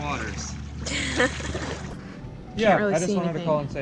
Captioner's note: laughing